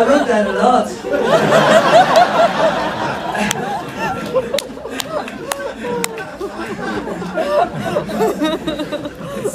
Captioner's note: laughs